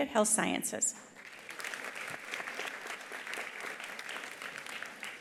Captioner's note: attendees applauding